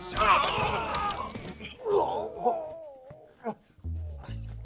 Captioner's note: men grunting